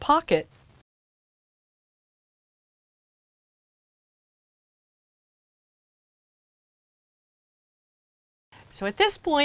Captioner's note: no Sound Present